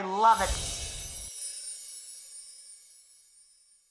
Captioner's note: glitter noise